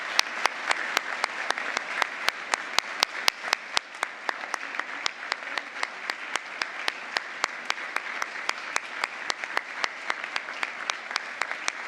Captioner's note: applause